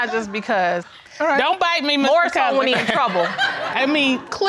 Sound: audience laughs

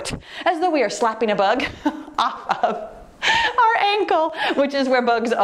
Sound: laughs

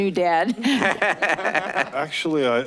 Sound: laughing

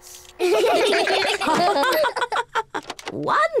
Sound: all laugh

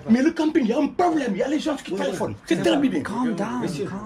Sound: speaking in a foreign language

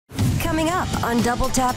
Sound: whoosh

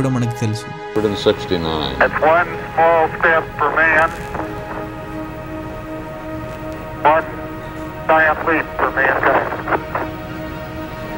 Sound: Neil Armstrong over the band radio

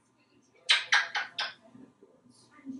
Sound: smooches

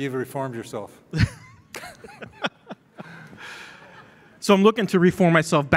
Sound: laughing

